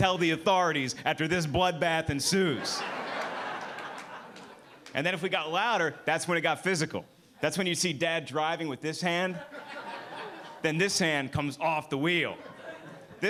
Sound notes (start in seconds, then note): 2.2 audience laughing; 9.2 audience laughing